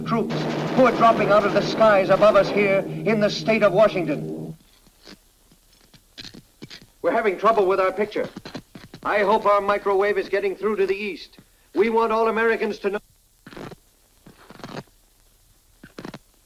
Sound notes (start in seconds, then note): 4.8 static buzzing; 12.9 static buzzing